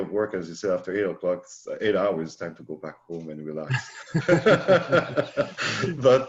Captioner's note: chuckles